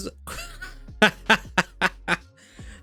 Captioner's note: laughs